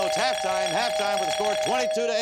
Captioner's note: bell ringing